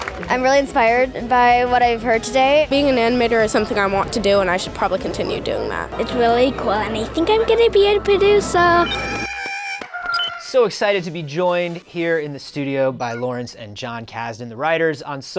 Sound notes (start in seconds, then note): 8.3 Porg sounds